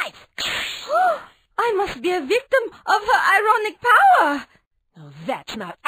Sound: gasp

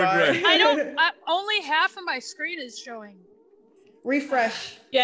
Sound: laugh

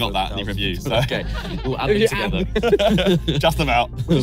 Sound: everyone laughing

